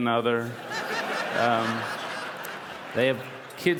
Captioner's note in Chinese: 笑聲